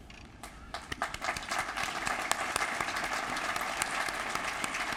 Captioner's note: applause